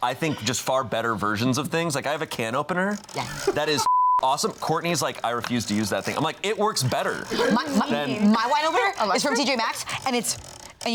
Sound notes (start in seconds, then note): 3.8 beep